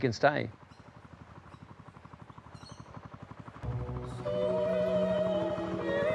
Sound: lawnmower engine purrs

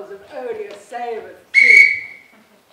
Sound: whistle

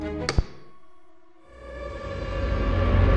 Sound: button clicks; suspenseful music

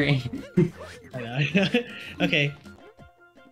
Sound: laughs

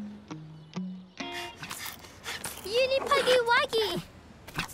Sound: panting

